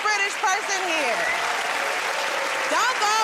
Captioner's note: cheers and applause